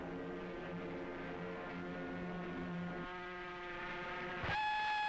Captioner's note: engine buzzing